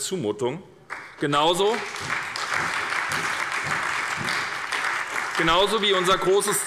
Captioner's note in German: Beifall bei der SPD